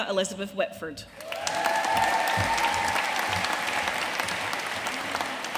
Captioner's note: audience cheering and applauding